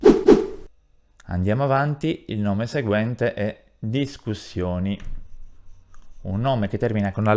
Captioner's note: discussions